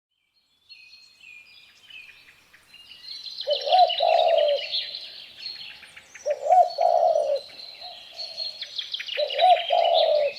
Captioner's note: bird sounds